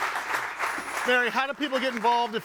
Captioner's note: audience applauding